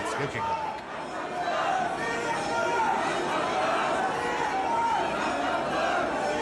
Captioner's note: crowd chatters in foreign language